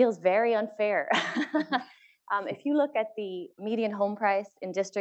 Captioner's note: laugh